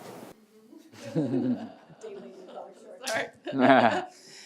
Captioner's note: laughs